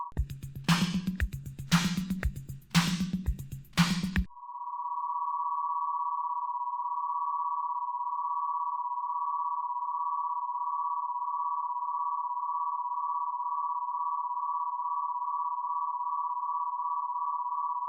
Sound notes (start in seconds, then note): 0.1 upbeat rhythmic music; 4.1 electronic humming gets faster